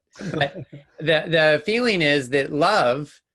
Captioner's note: laughs